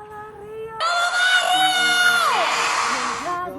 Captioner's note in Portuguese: grito